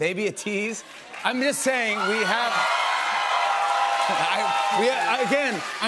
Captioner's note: cheers and applause